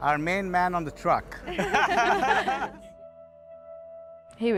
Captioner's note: laughing